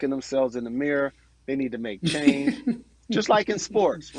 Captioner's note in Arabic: تضحك